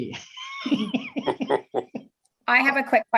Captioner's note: laugh